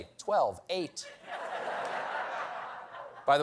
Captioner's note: laughter